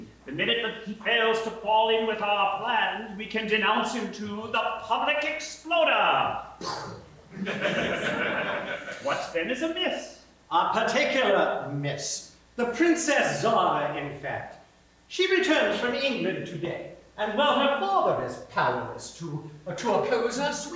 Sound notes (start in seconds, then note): 6.2 boom!